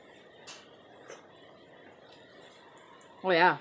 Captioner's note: none